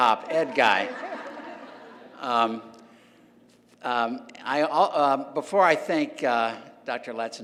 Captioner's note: laugh